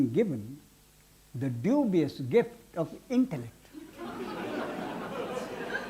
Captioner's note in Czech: smích